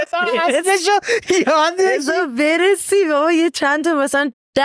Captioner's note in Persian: خنده